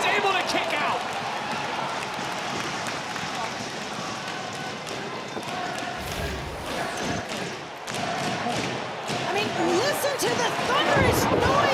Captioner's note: crowd cheering